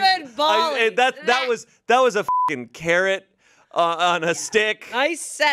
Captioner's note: beep